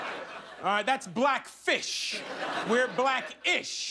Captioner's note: laughter